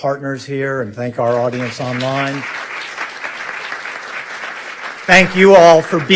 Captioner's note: audience clapping